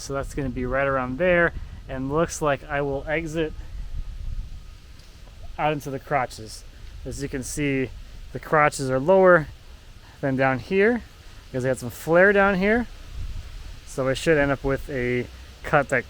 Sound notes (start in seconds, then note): none